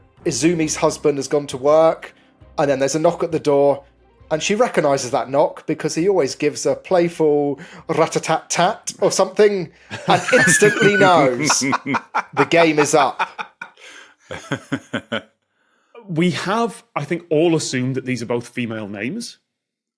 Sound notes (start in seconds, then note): 9.9 others laughing; 14.2 chuckles